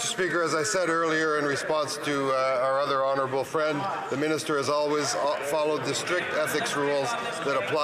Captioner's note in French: voix de l'interprète